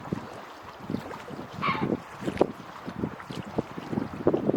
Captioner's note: angry heron noises